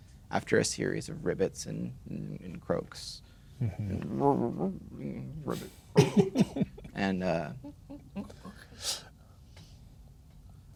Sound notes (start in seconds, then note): 3.9 emitting a series of ribbits and croaks